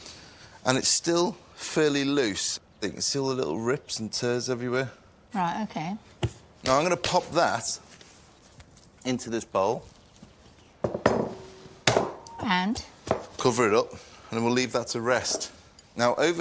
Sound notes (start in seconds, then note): none